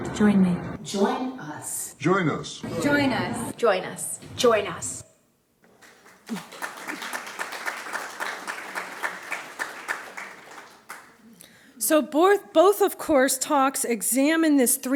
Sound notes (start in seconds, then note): 5.7 applause